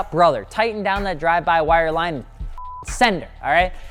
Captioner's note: beep